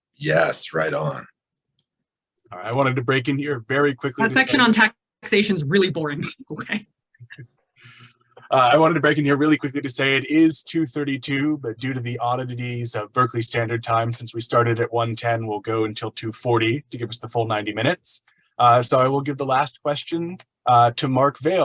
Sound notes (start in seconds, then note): 7.2 laughs